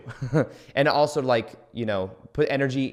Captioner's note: chuckles